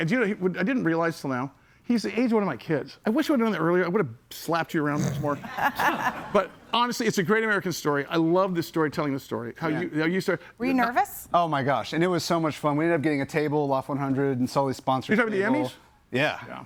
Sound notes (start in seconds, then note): 5.2 audience laughs; 5.3 laughs